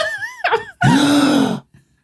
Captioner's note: laughing